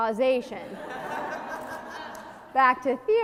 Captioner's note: audience laughs